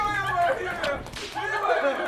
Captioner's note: slapping